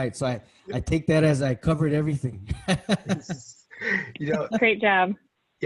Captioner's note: laughs